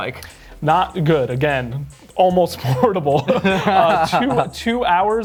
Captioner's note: laughing